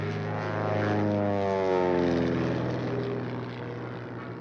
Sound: plane roaring

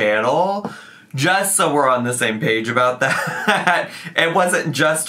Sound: chuckling

